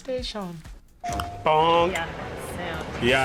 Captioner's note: bell dinging